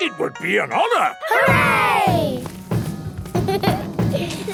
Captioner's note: laughter; drumming